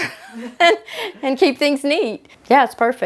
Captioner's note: laughs